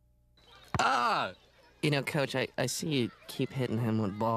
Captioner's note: yells